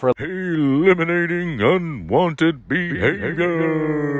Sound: dramatic voiceover

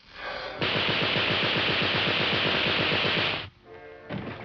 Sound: machine gun firing; tense music

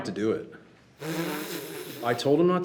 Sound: trustee blows raspberries

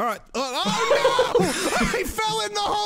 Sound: laughing

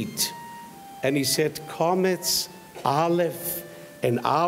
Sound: speaks in foreign language

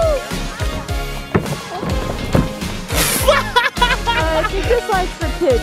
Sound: thumping; laughing

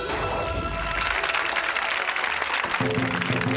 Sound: audience clapping; drumming

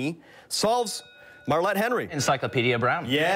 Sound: bell rings

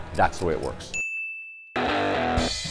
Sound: soft bell; upbeat rock music

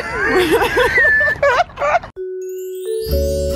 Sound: both laughs; instrumental music

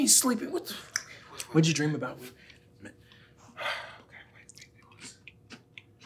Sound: sighs

